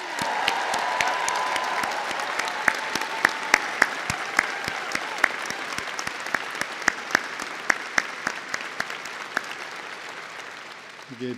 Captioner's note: applause